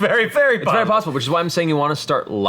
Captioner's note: laughs